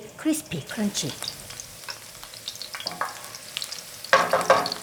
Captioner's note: oil popping